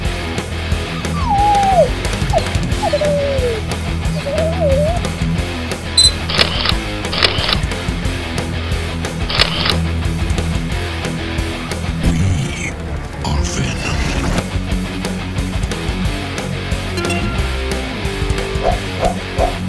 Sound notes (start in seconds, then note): 0.9 sound--Dog wimps; 6.0 sound --Beep; 6.0 sound -- Camera snap shot; 10.7 Ominous voice: "We are Venom"; 17.0 sound: email alert